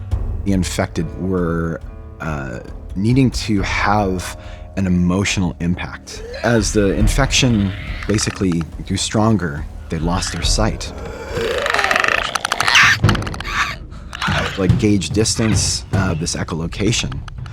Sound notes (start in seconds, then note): 11.3 clicker Noises